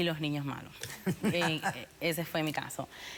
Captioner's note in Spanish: risas